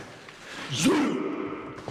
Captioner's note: all chant in dwarven